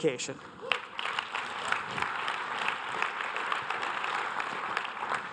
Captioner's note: audience applause